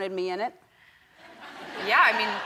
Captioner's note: crowd members laughing